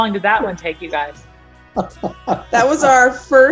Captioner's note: laughs